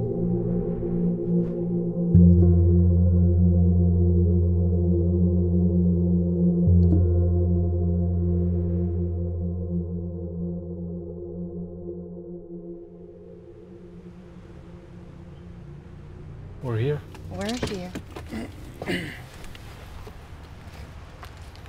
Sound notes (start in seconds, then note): 0.2 solemn music; 13.5 vehicle engine running; 18.2 Pablo clears throat